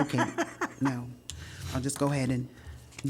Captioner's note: laughter